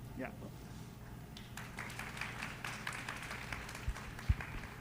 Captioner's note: audience clapping